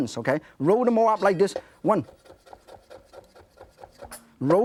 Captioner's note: chopping food sounds